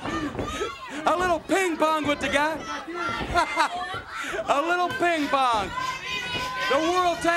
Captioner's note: laugh